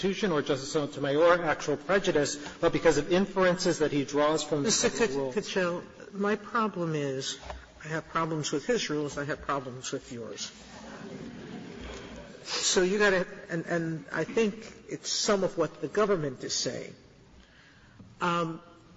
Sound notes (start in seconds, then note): 10.8 laughter